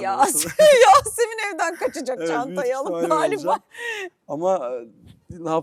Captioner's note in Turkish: kahkaha